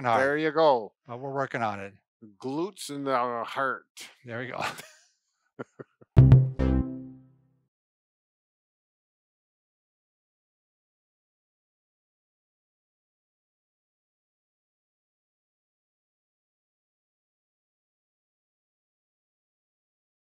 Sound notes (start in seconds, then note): 5.6 laughing; 6.2 light synthesizer music